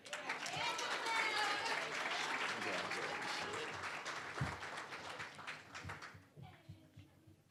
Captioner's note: applause